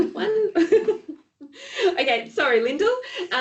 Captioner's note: ladies laughing